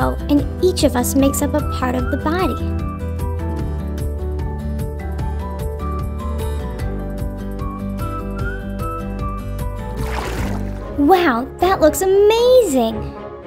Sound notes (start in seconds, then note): 3.1 bright music; 9.9 liquid splashing